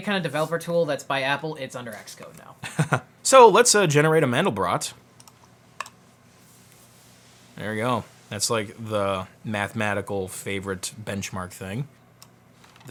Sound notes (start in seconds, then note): 3.2 laughs